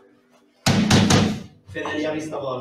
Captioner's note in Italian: knock on the door